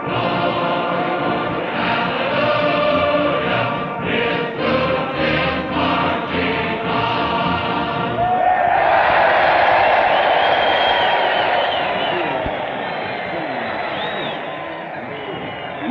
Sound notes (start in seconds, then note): 8.1 cheering